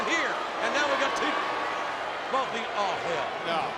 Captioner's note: audience cheering